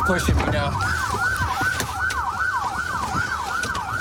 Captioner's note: sirens blaring